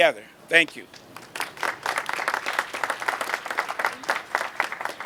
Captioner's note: audience applauding